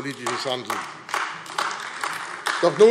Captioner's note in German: Beifall AfD